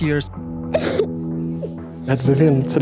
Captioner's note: crying